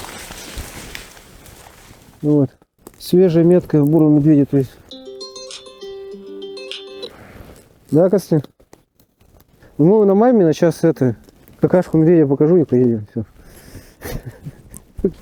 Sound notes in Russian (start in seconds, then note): 4.9 Звонит телефон